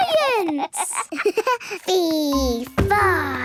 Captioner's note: giggles